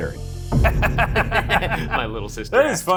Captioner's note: both laughing